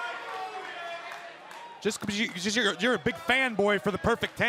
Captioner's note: crowd chatter